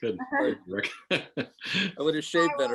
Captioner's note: laughing lightly